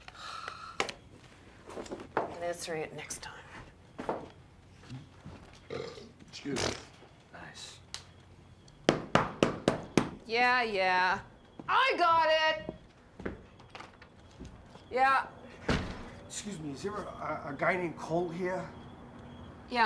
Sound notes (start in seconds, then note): 0.1 sighs; 5.6 burps; 6.5 farts; 8.8 knocking at door